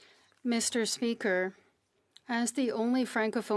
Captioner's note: speaking French